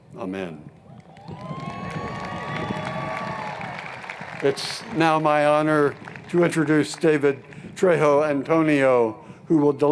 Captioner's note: cheers and Applause